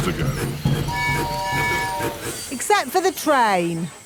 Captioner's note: train tooting